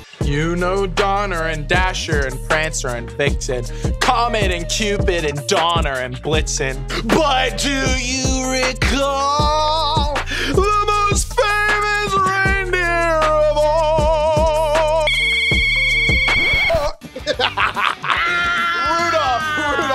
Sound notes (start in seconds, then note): 14.8 squealing; 16.9 laughing